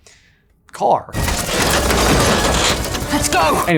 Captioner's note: metal clanking